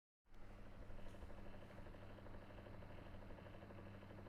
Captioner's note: more fan sounds to fill the empty void